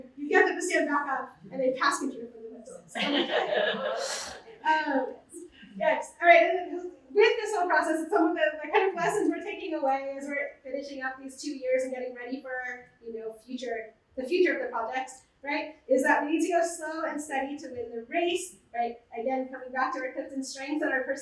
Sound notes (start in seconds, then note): 2.2 muffled voice; 2.9 laughter